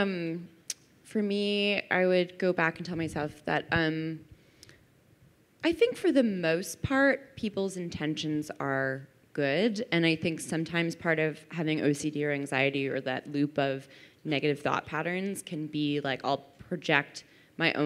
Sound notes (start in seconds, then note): none